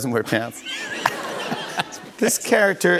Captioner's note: laughter